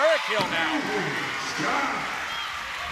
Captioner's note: cheering